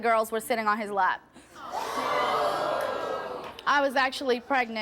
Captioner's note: audience groans